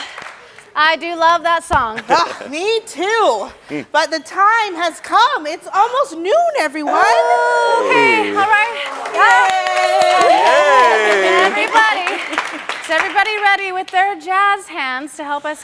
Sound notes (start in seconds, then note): 9.8 audience claps and cheers